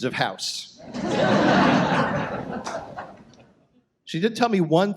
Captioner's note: audience laughs